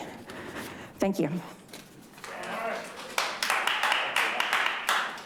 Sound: audience applauding

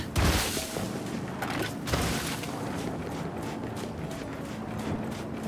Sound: footsteps

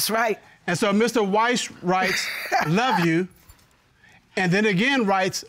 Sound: laughs

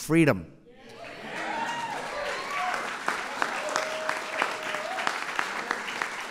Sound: applause

